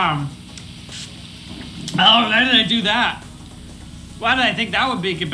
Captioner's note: spraying sour spray